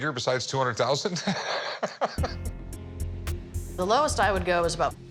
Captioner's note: Rick laughs